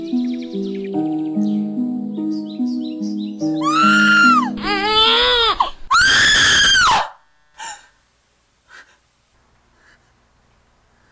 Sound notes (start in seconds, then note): 3.6 Kate screaming